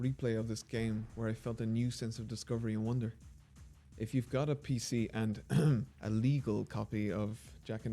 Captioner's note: ahem